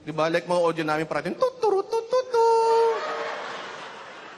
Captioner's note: imitating trumpet; laughter